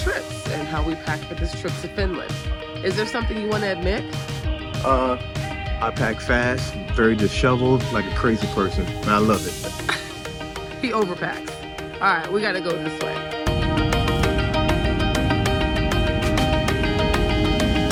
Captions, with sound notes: and how we packed for this trip to Finland. Is there something you wanna admit? - I pack fast, very disheveled, like a crazy person and I love it. - (laughs) He over packed. All right, we gotta go this way. (fast upbeat music)